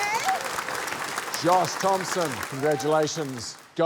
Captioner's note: cheering, applause